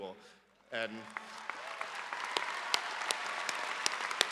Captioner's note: audience applause